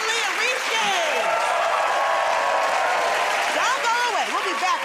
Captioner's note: cheers and applause